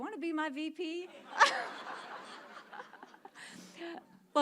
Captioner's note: all laugh